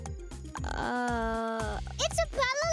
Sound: groaning

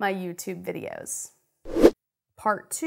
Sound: air rushes

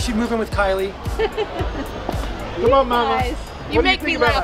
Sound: laughing

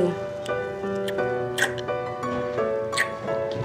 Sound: kissing sounds

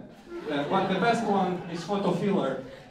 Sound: laughter

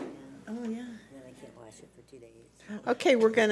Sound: background chatter

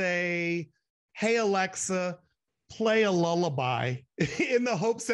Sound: chuckles

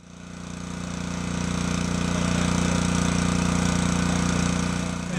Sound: engine noise

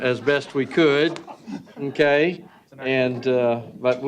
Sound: laughter

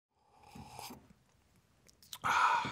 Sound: sipping loudly; exhales loudly

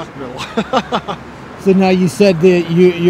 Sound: chuckles

